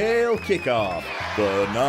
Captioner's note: cheering